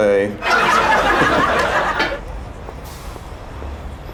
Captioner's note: laughter